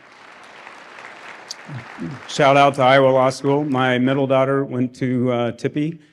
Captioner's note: applause